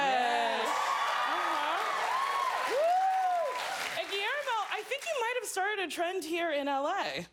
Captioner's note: cheers and applause